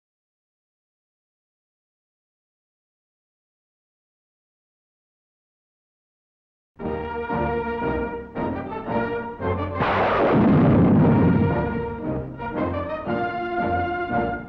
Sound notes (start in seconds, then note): 6.8 upbeat march music; 9.7 cannon fires